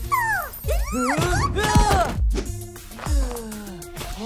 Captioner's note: Amato yelps